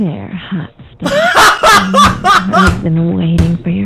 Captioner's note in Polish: śmiech